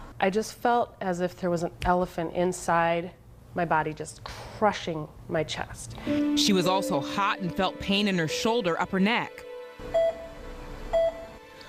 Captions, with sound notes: - I just felt as if there was an elephant inside my body, just crushing my chest. - [Voiceover] She was also hot and felt pain in her shoulder up her neck. (heart monitor beeps)